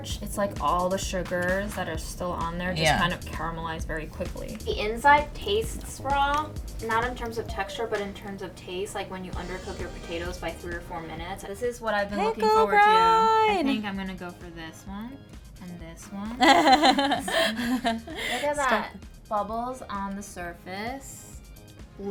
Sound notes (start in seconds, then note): 16.2 laughs